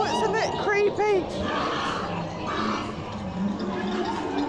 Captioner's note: grunting noises; cackling and chattering